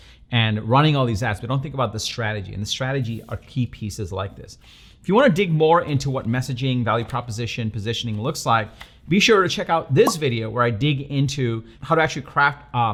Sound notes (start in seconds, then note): 10.0 pop